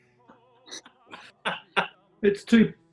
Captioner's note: laughing